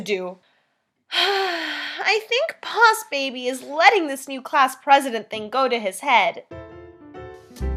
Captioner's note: sigh